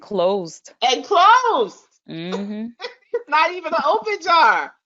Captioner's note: chuckles